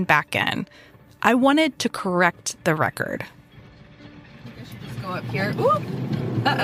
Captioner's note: driving ambi up